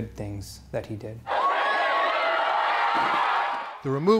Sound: protestors cheering

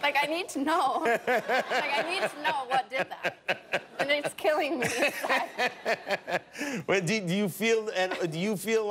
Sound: laughter

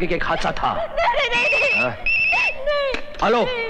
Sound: phone ringing

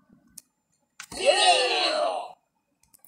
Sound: 7 people cheering at once

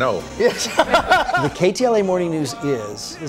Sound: laughs

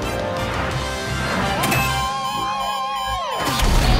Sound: beeping

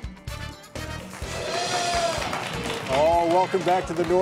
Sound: audience applauding

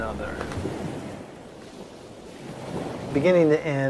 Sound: waves whooshing

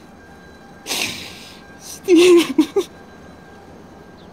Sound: he cries

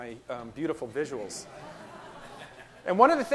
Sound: audience laughing

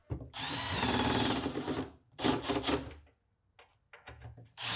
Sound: drill whirring

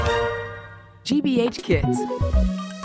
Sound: voiceover; upbeat music

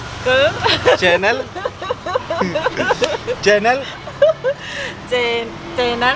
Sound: laughing

